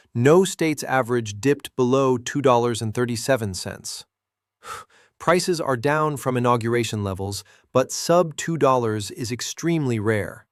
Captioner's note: exhales sharply